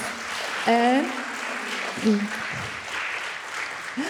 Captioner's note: audience applauds